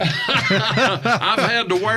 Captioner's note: laughing